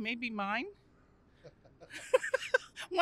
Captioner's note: laughter